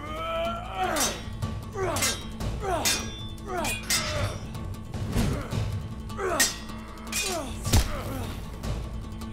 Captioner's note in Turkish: Kılıç sesleri; Müzik - Hareketli